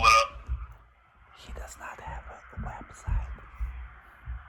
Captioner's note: whispers